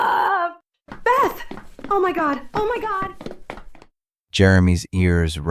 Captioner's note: screaming in pain